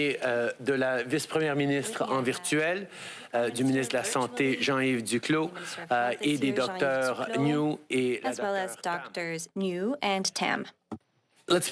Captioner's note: speaking French